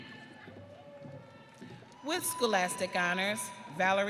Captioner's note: audience cheering